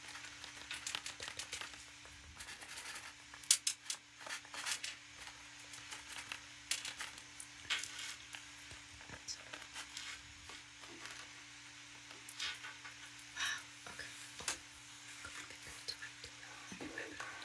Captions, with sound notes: (Tapping On Paper) That's it. Wow. Okay. (Whispering)